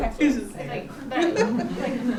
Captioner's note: laughs